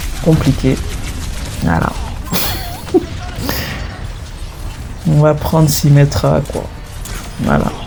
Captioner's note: laughs